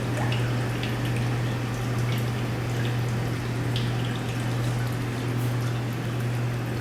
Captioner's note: generators’ noises still present but a lot quieter